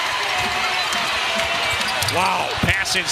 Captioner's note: cheers and applause